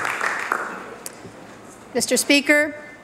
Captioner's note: applause